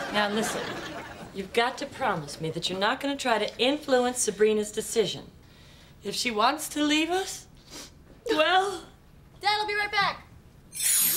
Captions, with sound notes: - Now listen, you've got to promise me that you're not gonna try to influence Sabrina's decision, If she wants to leave us, (sniffs) well- - Dad, I'll be right back.